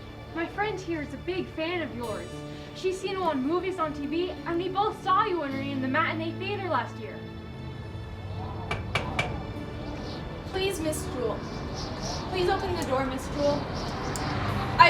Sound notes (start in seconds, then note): 7.5 wind whistling; 8.7 loud knocking